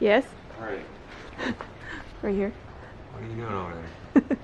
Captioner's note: laughing